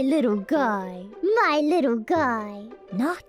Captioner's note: in bot's voice